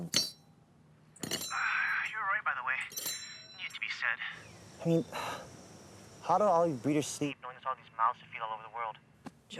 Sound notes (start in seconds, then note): 1.2 metal clanking; 1.7 sighs